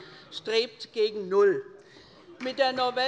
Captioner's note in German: Beifall bei Abgeordneten der SPD